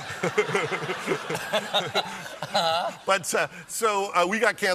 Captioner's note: laughter